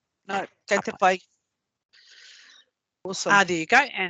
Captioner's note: speaking maori